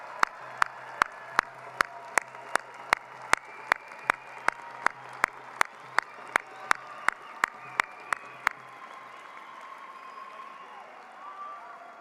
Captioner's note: cheering and applause